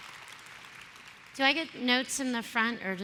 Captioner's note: applause